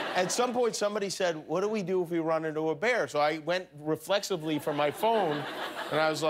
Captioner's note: laughter